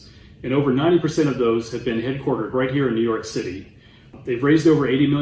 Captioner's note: none